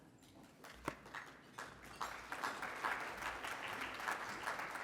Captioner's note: audience applauding